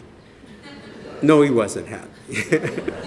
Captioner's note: laughter